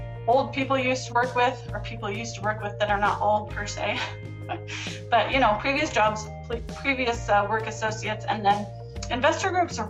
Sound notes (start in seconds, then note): 4.5 laughs